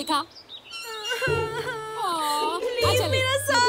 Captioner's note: Girl crying